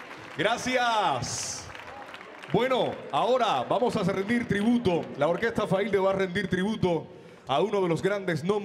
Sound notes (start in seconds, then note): 0.6 MC speaking in Spanish